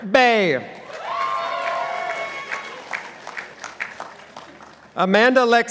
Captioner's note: participants applauding